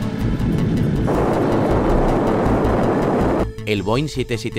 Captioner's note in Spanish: Sonido de coche a gran velocidad